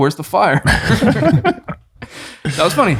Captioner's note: all chuckling